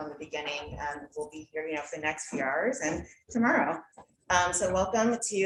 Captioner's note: murmurs